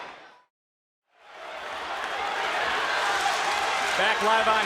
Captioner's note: crowd cheering